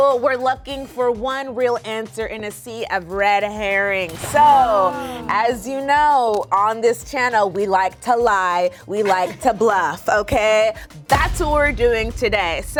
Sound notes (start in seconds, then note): 9.0 group chuckling